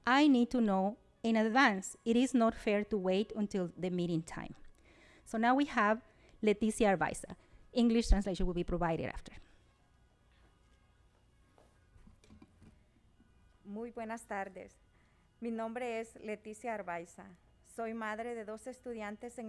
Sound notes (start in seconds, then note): 14.0 speaking Spanish